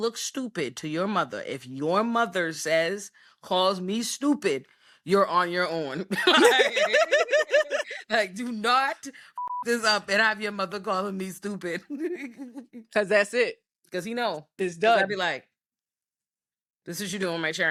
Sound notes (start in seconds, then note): 6.2 laughing; 7.8 beep